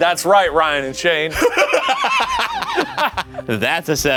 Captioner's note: laughing